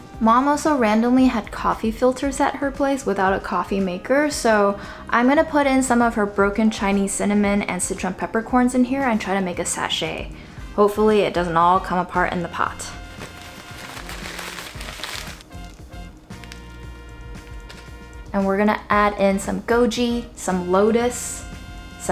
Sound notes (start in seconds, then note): 13.0 paper crinkling